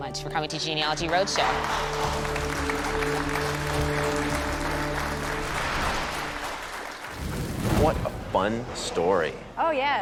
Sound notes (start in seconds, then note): 0.6 applause